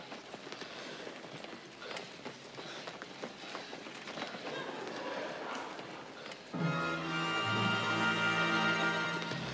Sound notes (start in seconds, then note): 4.5 laughter; 6.6 dramatic Music